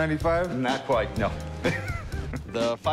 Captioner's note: laughs